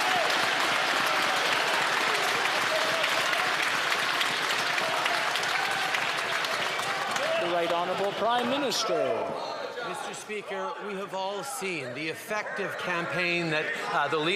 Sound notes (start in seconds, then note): 0.0 some Applause